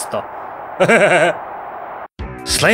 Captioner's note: he laughs